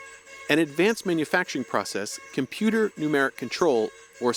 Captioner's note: voice-over